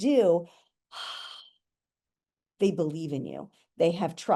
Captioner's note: exhaling deeply